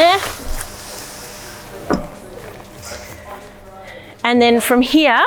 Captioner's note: tent rustling